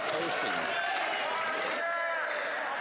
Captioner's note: some Applause